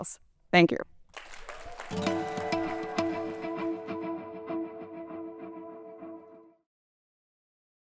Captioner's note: applause and cheering, music playing